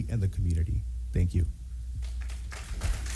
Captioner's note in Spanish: aplausos